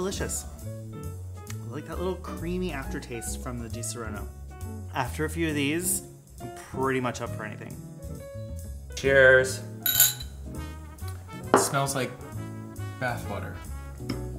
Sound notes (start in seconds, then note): 9.8 glasses clinking